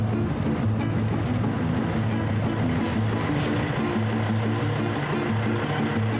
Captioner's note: truck Engine and Brakes